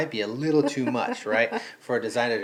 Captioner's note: laughing